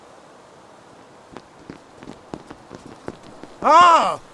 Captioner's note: multiple sets of approaching footsteps